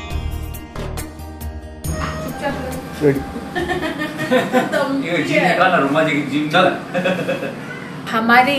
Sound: people talking and laughing

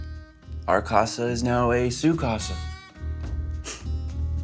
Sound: speaks in foreign language; mysterious music

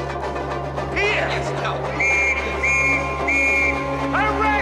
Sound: police whistle

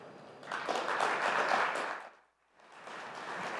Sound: applause

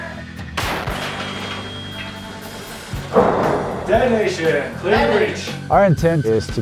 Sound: explosion booming

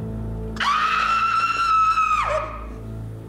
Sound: screams

